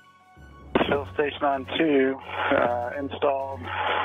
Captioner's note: radio static